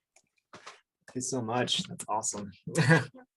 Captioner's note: chuckles